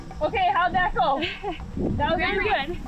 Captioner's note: air whooshing